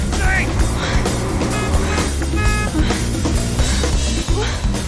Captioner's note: horn honking